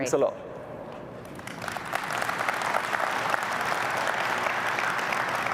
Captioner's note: applause